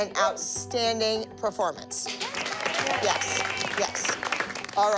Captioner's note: cheering